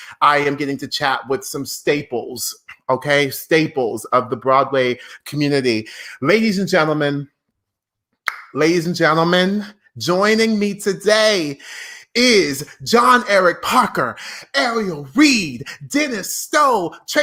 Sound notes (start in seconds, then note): 7.6 tongue popping